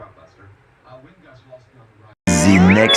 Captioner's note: none